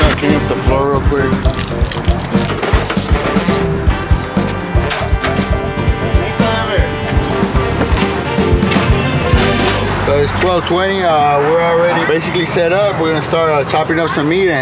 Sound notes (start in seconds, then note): 1.4 water dripping; 3.0 objects clattering